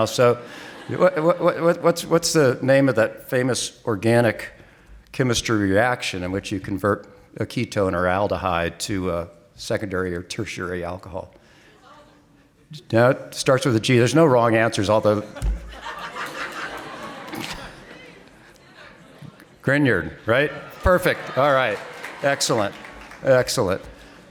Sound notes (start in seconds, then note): 15.2 audience laughing